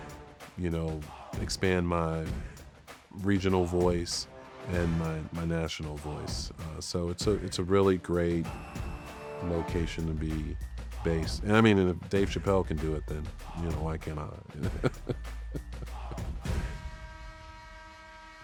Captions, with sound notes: you know, expand my regional voice and my national voice. So it's a really great location to be based. And I mean, if Dave Chappelle can do it, then, you know, why can't I? (laughs) (horn blaring)